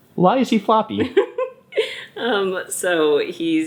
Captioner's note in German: Mutter lacht